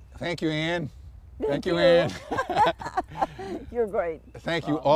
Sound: laughter

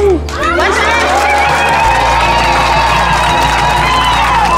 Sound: crowd cheering

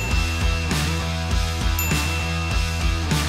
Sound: bell dinging

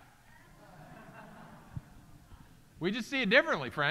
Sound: audience laughing

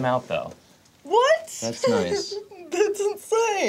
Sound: chuckles nervously

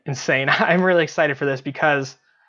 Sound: laughs

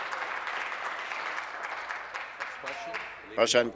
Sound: voice trailing; applause

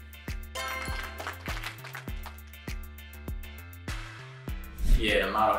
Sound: applause sound effect plays

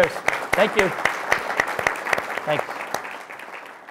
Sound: audience applauds

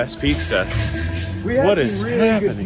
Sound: chains banging

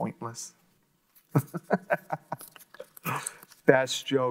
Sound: laughing

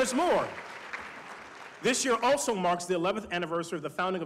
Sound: applause

